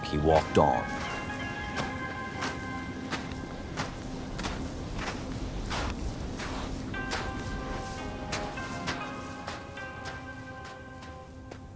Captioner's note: walking noises